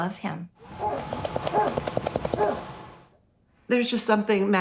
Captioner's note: dog barking